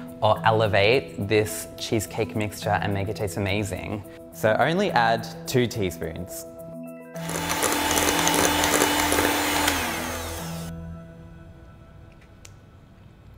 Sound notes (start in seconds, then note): 7.2 hand mixer stirs